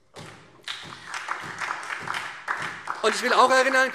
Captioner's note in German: Beifall